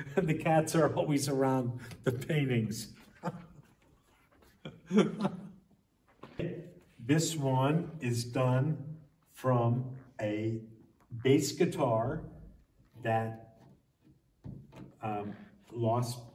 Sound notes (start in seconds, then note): 4.4 laughs